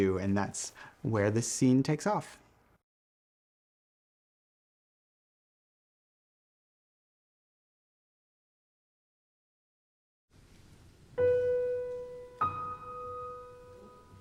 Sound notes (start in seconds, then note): none